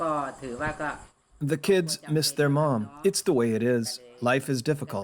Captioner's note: through translator